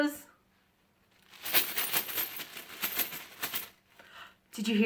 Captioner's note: coins clinking